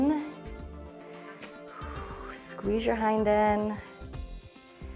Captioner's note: inhales and exhales